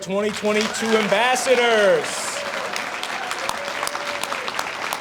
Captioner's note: audience applauds